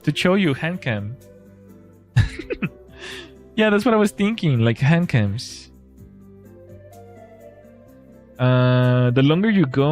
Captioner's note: laughter